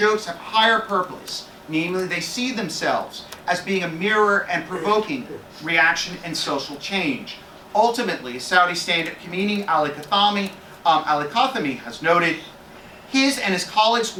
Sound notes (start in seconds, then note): 9.3 Arabic